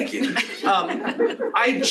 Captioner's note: laughter